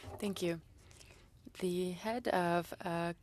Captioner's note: speaking French